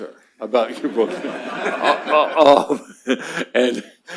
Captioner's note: laughter